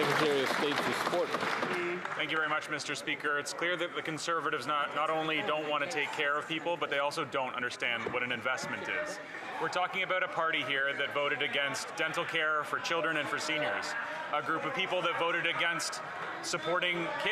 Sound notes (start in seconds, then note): 3.3 some Applause